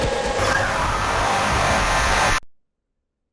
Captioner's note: loud metallic screeching